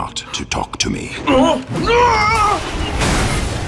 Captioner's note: crying out